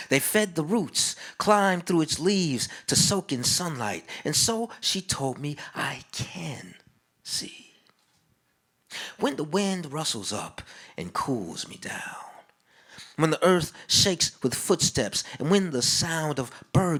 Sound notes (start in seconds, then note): none